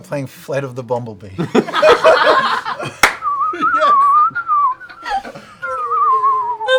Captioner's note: whistling